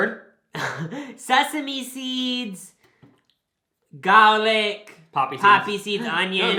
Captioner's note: laughs